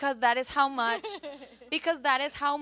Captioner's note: laughs